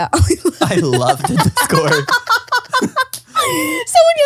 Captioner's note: laughs